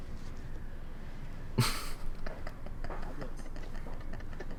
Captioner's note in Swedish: Små fnittra